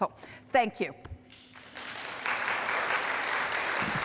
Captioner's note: applause